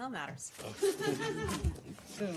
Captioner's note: laughter